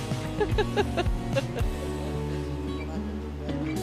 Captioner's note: she laughs